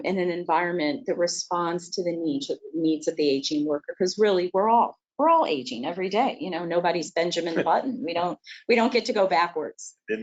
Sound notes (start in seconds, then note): 7.5 laughs